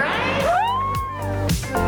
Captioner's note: crowd cheers